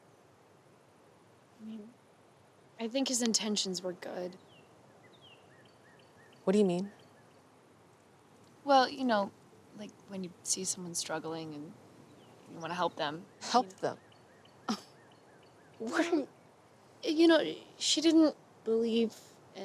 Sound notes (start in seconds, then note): 15.8 scoffs